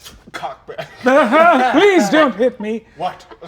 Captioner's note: mutters